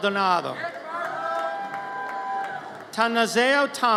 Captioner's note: audience cheers